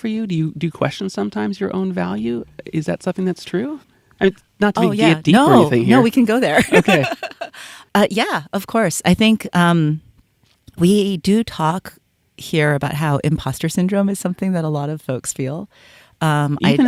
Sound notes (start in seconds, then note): 6.5 laughs